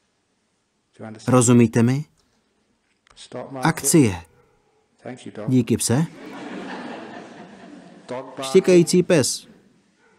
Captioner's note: dog barks